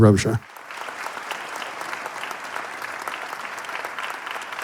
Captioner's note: audience applauding